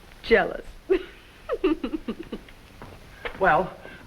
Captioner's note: Olga laughs